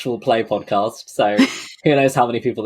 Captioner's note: laughs